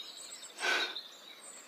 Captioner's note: exhale